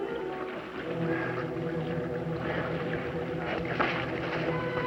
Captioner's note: breathing heavily; creaking